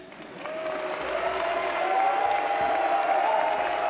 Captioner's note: applause